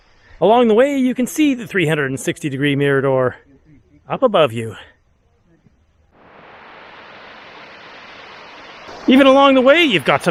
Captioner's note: waterfall